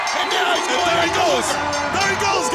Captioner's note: bell ringing